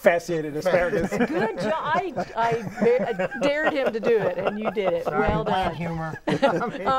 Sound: laughing

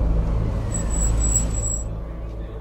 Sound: car halts

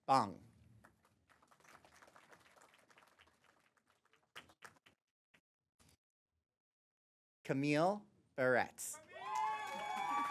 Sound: applause; applause

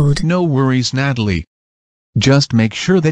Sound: none

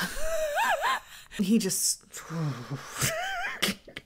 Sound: laughs; groans; laughs

